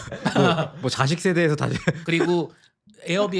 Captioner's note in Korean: 웃음